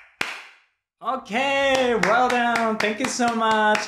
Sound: clap clap clap, clap clap clap, clap clap clap, clap!

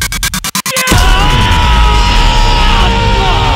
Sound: Roy groaning; Rahat screaming

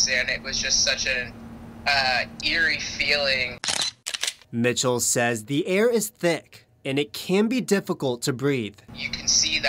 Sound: picture snap

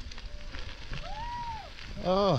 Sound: cheering from fog

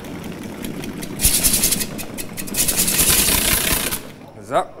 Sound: rattling

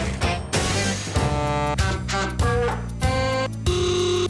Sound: trucks honking

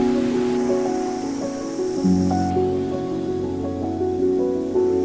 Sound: waves crashing; wind blowing; calm music continues

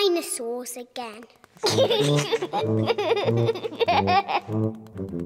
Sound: giggling

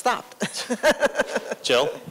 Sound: laughter

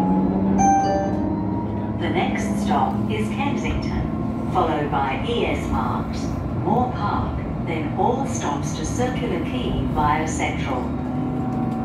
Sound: 2 Tone Chime

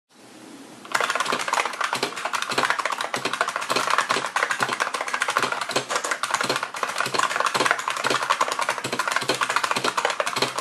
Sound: typing

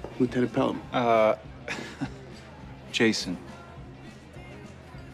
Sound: chuckles

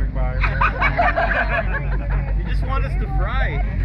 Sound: group members laughing

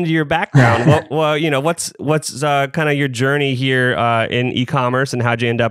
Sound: laughs

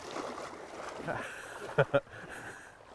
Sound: laughs

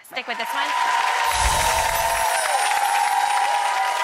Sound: crowd cheers

